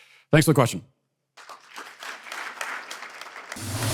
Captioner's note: audience applause